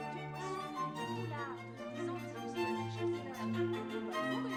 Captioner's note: lively music; faint chatter